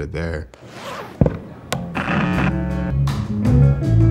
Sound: zipper; guitar music

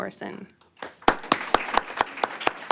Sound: applause

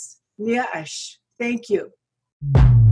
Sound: speaks foreign language; upbeat music

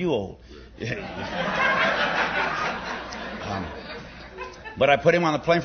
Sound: laughter

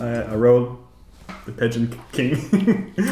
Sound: laughs

